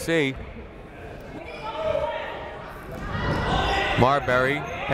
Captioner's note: people shouting in the crowd